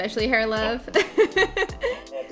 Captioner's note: laughing